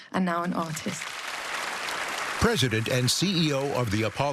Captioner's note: applause